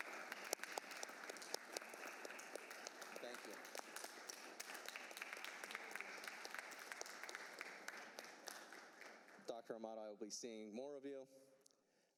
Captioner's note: applause